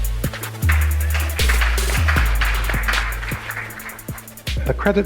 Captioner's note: audience applauding